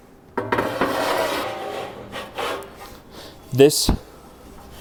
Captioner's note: accessory clangs